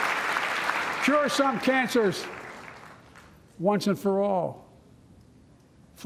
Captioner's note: applause